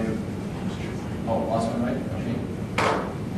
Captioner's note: speaking faintly